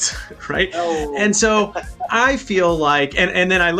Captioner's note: laughs